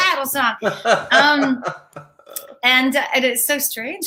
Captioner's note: laughs